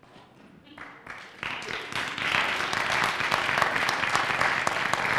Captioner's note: applause